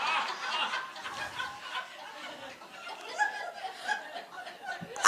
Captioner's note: audience laughing